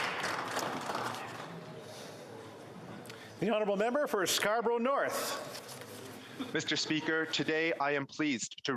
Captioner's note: applause